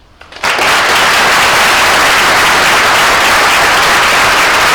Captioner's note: audience applauds